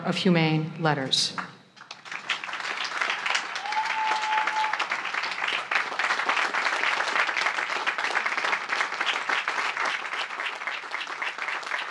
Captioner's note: applause